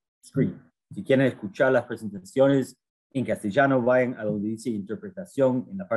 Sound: speaks in foreign language

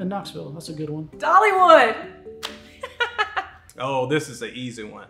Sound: laughs

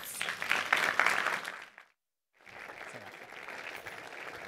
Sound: applause

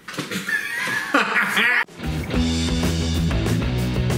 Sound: laughs

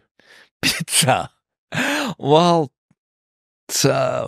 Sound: laughs

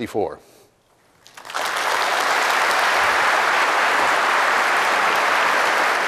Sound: applause

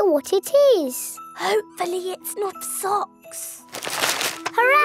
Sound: whispering

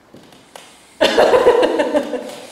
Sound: laughter

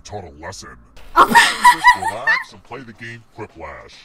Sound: laughs

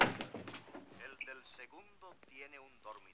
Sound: audio in spanish

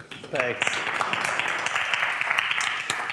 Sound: applause

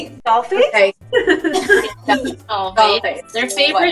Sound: all laughing

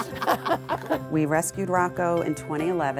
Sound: laughter

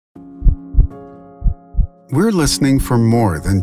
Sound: heartbeat

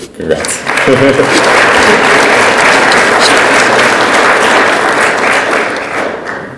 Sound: audience applauds; laughs

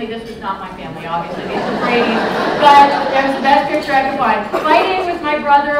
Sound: laughter

